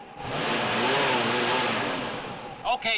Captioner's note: engine revving